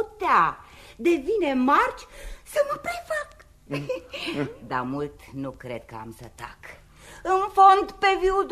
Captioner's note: laughter